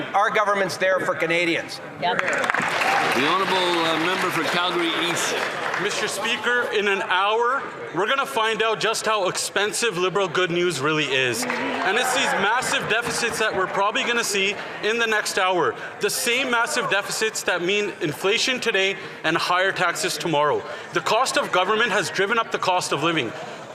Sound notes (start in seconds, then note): 6.5 some Applause